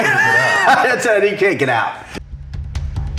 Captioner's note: laughs; percussive music